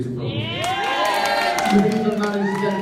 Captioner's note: applause